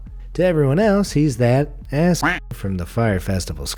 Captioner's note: quack